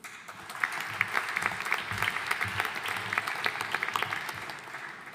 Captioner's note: audience applauding